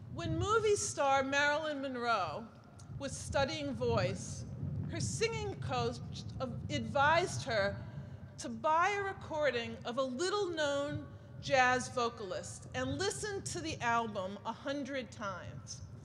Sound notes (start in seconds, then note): none